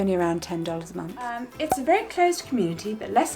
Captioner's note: air popping